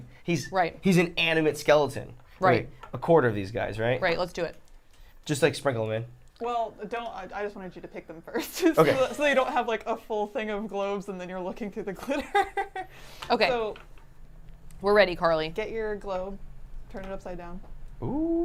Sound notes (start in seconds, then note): 12.0 laughs